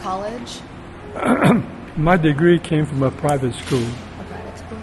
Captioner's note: clears throat